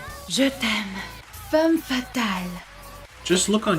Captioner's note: foreign language